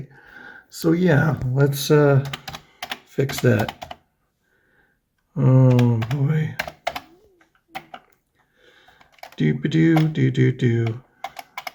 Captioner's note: happy noises